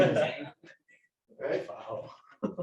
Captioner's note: laughter